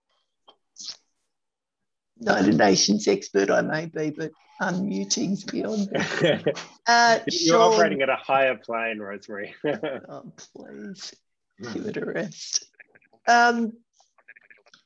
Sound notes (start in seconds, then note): 5.7 laughs